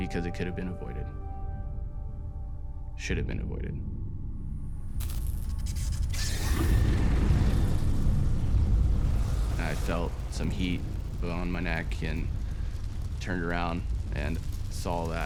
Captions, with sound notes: Because it could've been avoided, should've been avoided. (wires sizzling) (swishing) I felt some heat blow on my neck and turned around